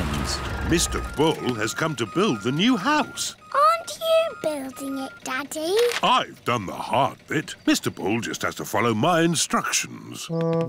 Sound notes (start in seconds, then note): none